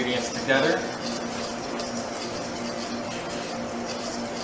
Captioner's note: whisking